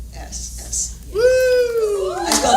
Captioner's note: applause